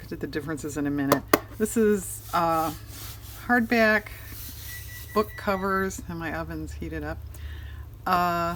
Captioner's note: electronic beeping